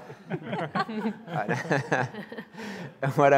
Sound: laughing

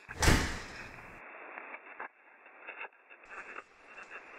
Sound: door slams

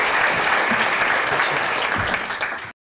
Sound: applause

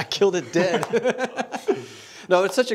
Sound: laughter

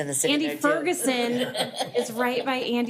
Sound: board member laughing

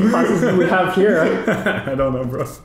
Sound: both laughing

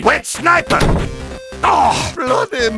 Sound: door closes

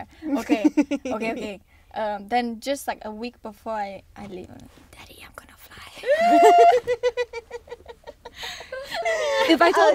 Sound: whispers

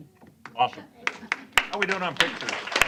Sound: applause

